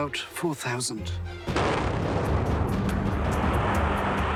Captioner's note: explosion